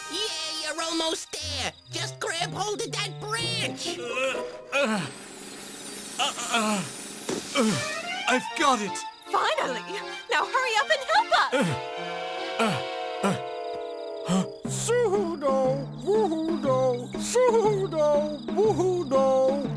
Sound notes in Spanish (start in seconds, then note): 10.3 asustado